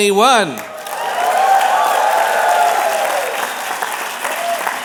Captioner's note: applause